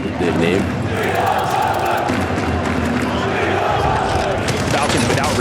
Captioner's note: crowd